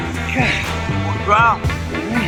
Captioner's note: uptempo rock music continues; Buck groans